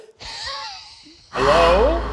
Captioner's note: laughing